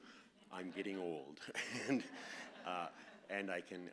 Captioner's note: laughs